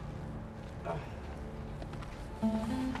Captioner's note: grunting